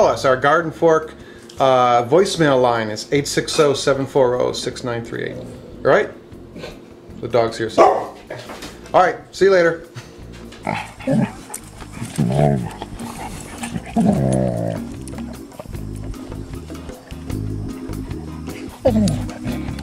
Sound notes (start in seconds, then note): 7.7 dog barking; 10.9 dogs vocalizing; 13.7 upbeat elevator music